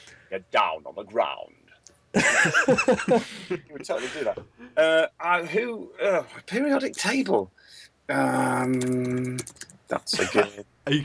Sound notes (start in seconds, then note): 2.1 laughter